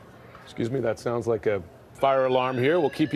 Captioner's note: siren